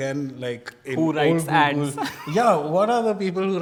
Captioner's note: laughs